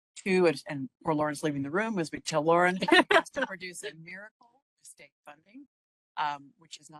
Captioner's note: laughing